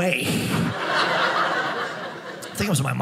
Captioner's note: audience laughing